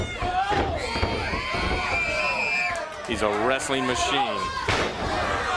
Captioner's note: crowd chatter